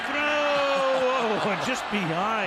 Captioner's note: chuckles